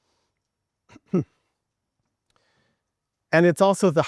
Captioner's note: chuckling